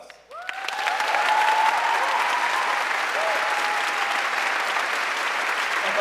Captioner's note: audience cheering and applauding